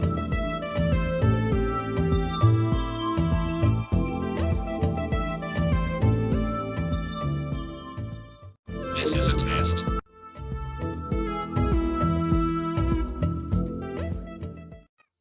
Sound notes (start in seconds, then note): 8.5 robotic Voice